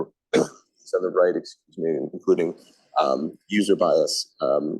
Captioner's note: sneezes